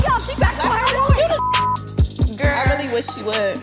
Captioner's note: beep